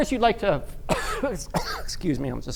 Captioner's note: coughs